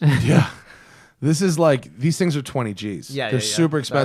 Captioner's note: laughter